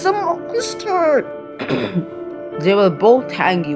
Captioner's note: clears throat